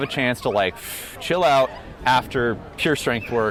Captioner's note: exhales deeply